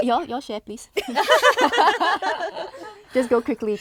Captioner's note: girls laughing